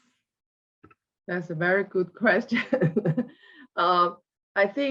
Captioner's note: laughs